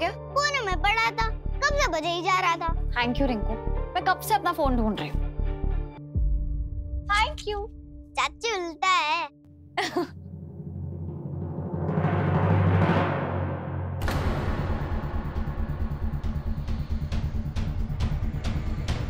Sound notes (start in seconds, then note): 9.8 laughs; 13.8 pensive music playing